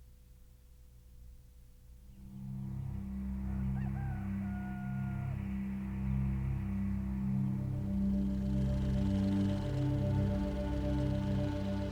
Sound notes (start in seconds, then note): 3.3 rooster crowing; 8.4 light orchestral music